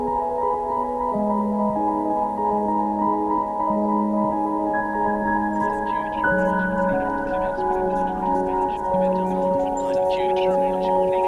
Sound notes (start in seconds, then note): 5.5 indistinct chatter